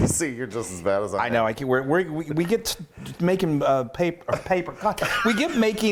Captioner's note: stammers